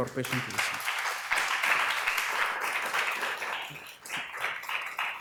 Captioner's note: applause